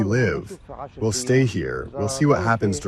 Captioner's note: through translator